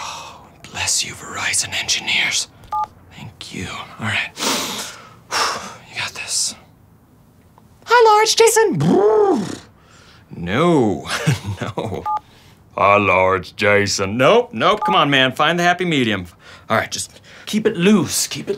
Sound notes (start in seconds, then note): 4.3 exhales; 8.0 high voice; 8.6 buzzes lips; 13.0 low voice